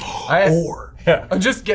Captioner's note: gasps